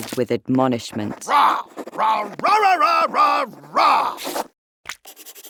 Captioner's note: Paul roaring angrily